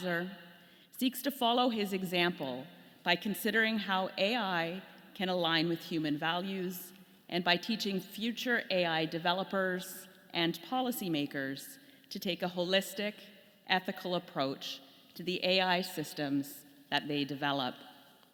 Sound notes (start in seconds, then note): none